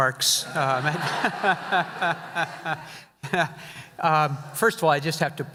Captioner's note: audience laughing